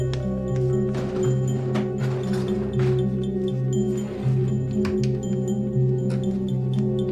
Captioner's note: opening drawers and cabinet